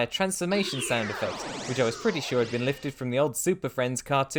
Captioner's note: super friends sound effect